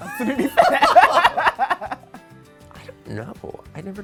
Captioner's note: both laughing